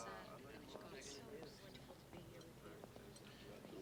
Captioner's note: indistinct chatter